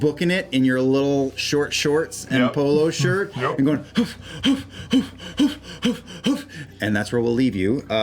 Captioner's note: pants